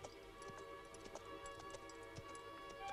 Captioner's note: none